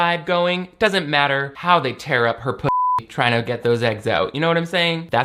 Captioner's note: beep